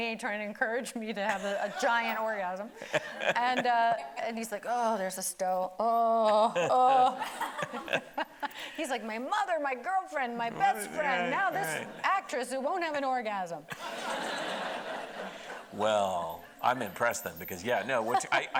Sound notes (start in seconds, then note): 2.8 laughing; 13.7 audience laughing